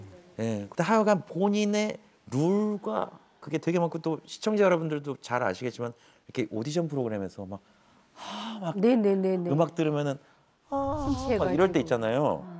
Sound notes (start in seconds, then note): none